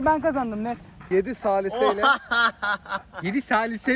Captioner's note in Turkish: gülmeye başlar